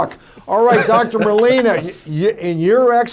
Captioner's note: others laugh